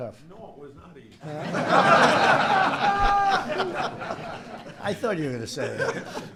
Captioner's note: laughter